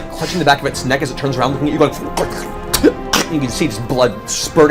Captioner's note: sputters